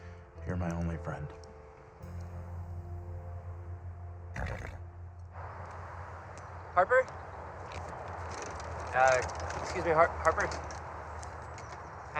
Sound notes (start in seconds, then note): 4.3 snorts